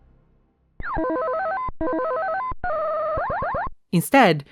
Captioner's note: Galaxian sound effects